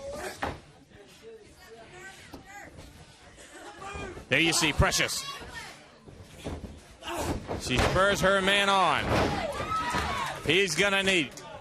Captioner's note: crowd chatter